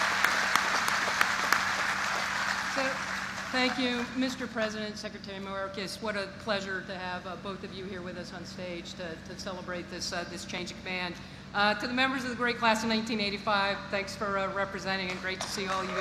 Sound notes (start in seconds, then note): 5.3 applause